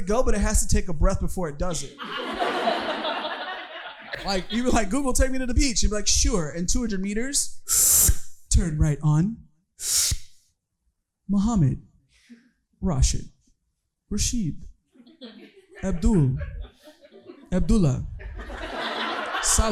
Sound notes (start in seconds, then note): 1.9 audience laughing; 8.0 inhaling